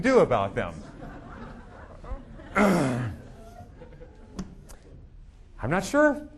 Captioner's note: audience laughing